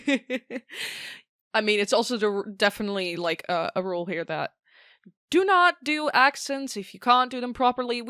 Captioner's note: laughs